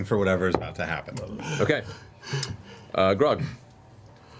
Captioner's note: gasping for breath